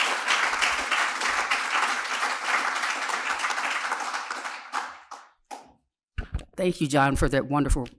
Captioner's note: applause